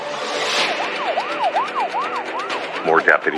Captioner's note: siriren w waiailing